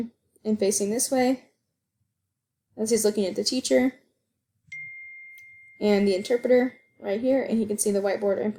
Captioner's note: phone dings